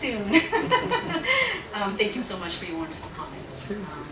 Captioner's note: laughs